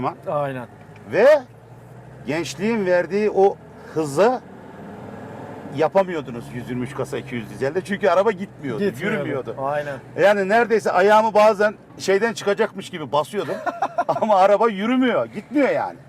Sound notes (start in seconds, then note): 13.4 laughs